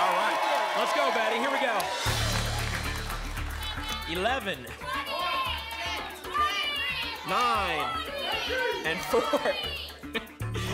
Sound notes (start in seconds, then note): 4.8 audience shouting numbers; 9.0 laughs